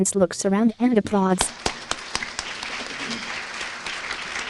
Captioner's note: applause